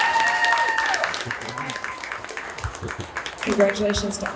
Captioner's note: applause